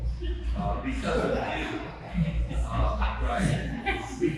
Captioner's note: laughing